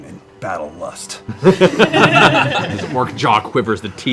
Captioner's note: laughter